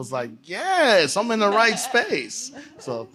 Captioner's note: laughter